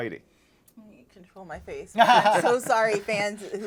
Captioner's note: laughs